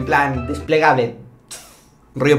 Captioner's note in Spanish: sonido con la boca